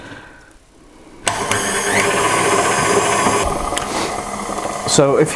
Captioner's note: louder mixer noise